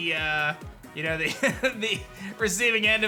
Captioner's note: chuckles